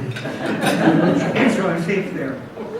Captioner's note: audience laughs